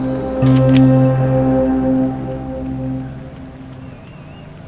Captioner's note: gun cocking